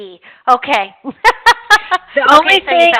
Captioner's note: laughter